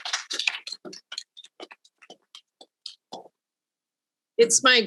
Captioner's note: audience applauding